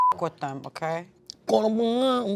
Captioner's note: beep